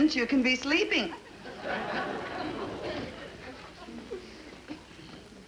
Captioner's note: audience laugh